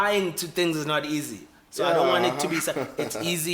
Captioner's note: laughs